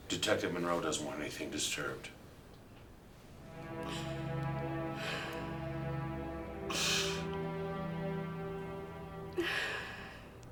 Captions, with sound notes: Detective Monroe doesn't want anything disturbed. (somber music) (Lisa sobbing)